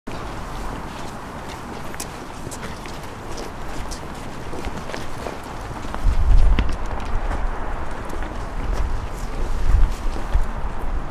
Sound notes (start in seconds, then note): 0.1 footsteps